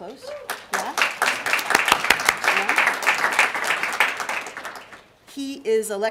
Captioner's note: applause